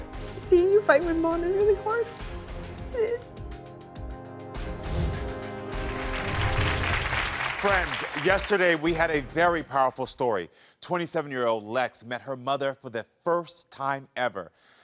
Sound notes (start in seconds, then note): 4.2 intense music; 5.6 audience applauding